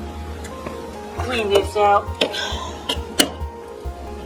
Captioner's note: sighing